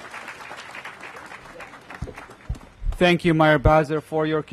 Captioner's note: applause